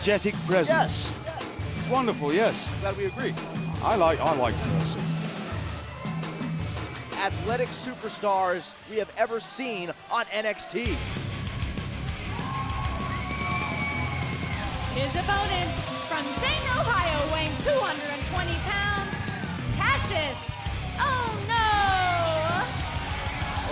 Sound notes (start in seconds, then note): 14.7 crowd cheering